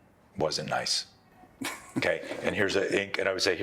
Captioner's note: burst into laughter